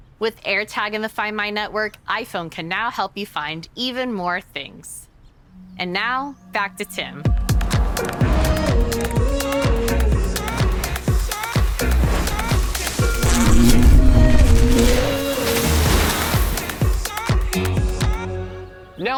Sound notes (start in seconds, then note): 8.1 upbeat music; 11.7 buzzing